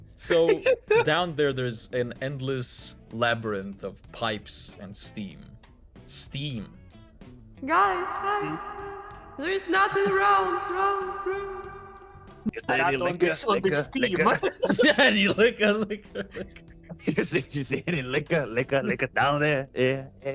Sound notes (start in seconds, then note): 12.4 laughs; 17.1 laughs